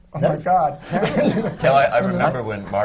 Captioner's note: laughter